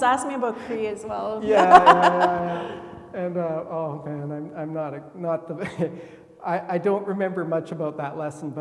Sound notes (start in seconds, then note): 0.4 laughing